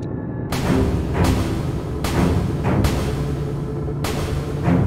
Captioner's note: noise of lighting banks